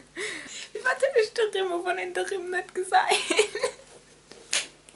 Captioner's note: in luxemburgish